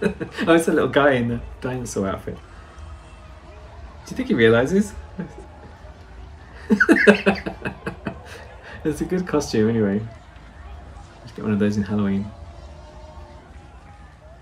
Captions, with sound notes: Oh it's a little guy in the dinosaur outfit! Do you think he realizes? *snorts at his desperate escape* It's a good costume anyway. Let's get one of those in Halloween